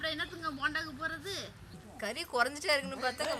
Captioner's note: laughter